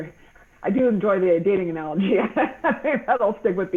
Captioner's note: laughing